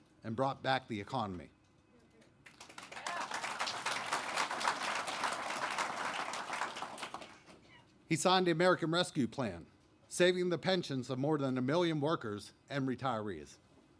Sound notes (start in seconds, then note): 2.4 applause